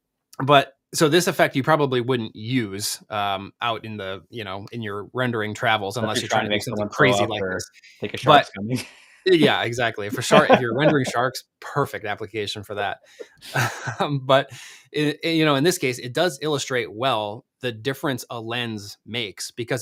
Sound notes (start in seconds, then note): 9.3 laughs; 13.6 chuckles